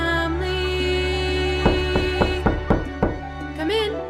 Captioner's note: knock